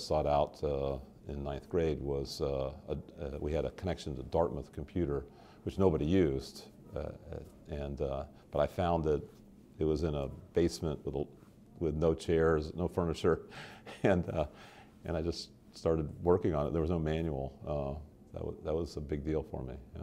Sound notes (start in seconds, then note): 13.6 chuckle